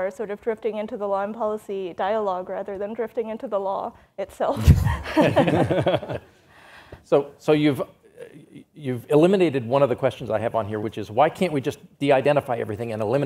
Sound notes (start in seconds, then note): 4.7 all laughs